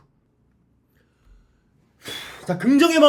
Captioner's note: deep breath